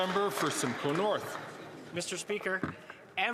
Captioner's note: some Applause